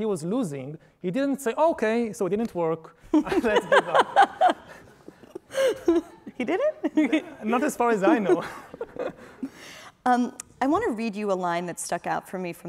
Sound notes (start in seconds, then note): 3.2 laughing